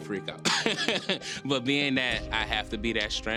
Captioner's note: laughing